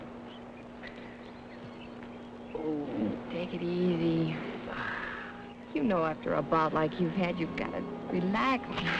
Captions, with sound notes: (birds chirping) Oo. - Take it easy. (Ralph exhales) You know after a bout like you've had you gotta relax and rest.